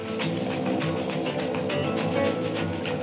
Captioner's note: laid back funk music; airplane humming